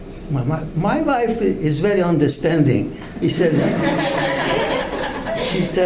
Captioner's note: audience laughs